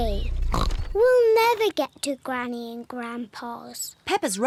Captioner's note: snorts